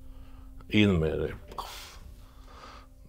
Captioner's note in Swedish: Poffljud